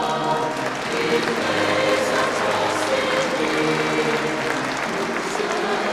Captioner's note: audience applauding